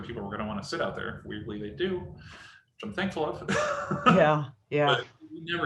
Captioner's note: laughs